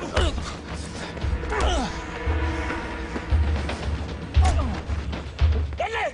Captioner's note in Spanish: Golpes; Quejidos